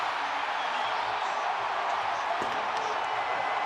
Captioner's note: crowd cheering